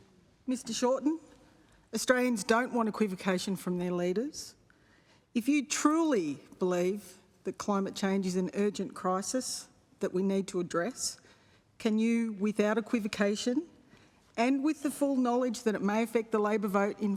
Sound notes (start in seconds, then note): none